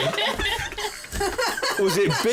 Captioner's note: laughter